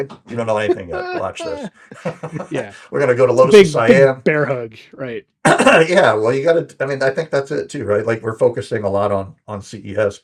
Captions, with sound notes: You don't know anything, watch this. (both laughing) We're gonna go to Los-- Big bear hug, right. Yeah, well, you gotta, I mean, I think that's it too, right? Like, we're focusing a lot on CES,